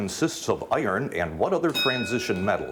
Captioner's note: bell dings